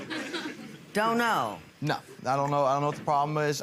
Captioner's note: audience laughs